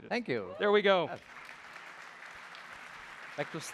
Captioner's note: applause